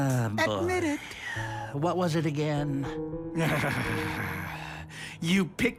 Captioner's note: sighing irritably